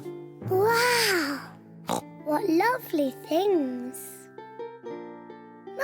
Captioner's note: oinks